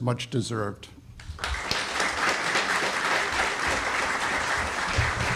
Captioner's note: audience applauds